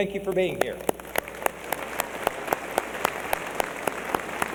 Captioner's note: applause